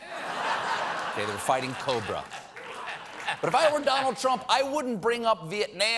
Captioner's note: laughter